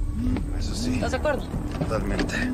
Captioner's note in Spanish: Vibra el celular